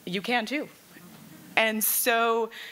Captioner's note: laughing